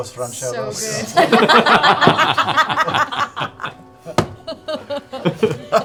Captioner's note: laughter